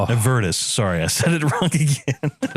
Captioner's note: laugh